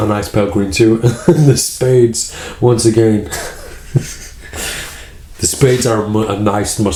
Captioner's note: laughs